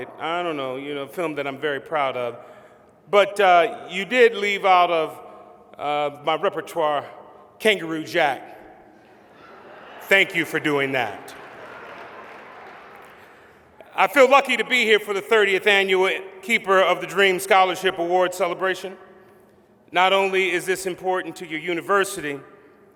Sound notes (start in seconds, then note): 9.1 laughter